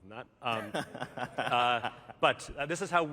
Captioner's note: laughter